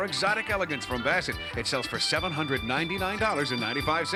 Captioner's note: none